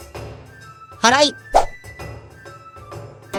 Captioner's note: sweeping